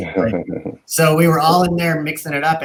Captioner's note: laughing